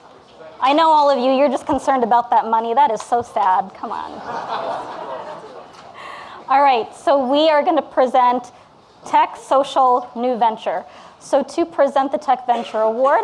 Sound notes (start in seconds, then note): 4.1 audience laughing